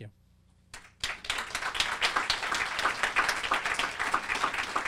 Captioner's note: audience applauding